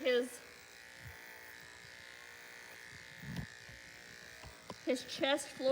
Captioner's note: clippers buzzing